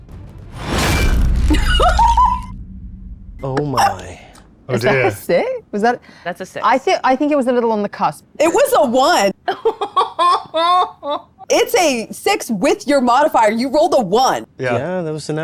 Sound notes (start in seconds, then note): 1.4 laughing; 9.4 laughing